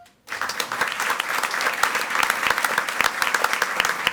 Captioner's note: audience applauds